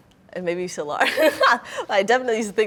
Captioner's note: laughing